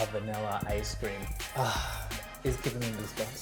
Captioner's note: exhales